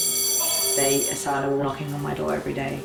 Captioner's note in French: cloche sonne